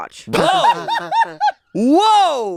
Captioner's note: laughs